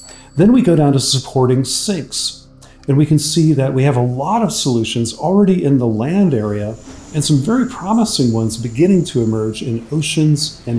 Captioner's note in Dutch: machines